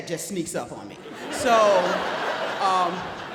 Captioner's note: audience laughs